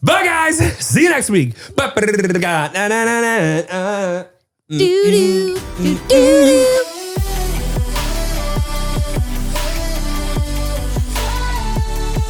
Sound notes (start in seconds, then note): 2.0 makes music sounds; 4.7 both humming; 9.7 upbeat music